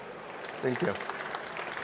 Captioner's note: applause